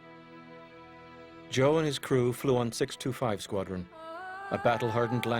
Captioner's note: voiceover